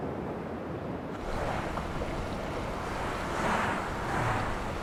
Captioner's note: cars whooshing